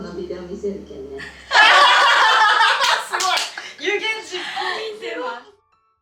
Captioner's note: laughs